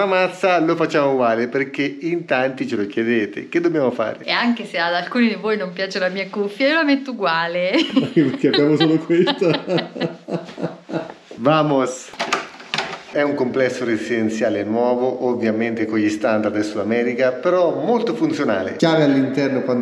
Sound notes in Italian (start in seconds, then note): 10.8 Risate